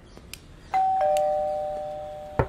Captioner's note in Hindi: दरवाजे की घंटी बजती है